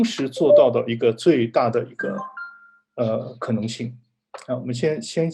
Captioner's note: doorbell in the background